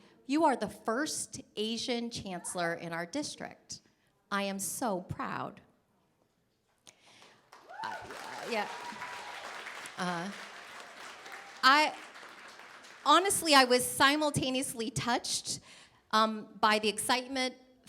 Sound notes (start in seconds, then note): 7.0 applause